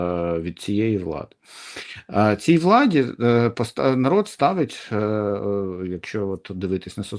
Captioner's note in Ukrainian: сопіння